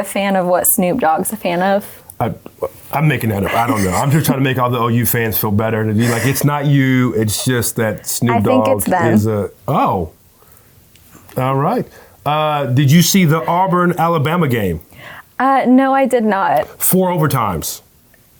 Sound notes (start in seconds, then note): 3.4 laughing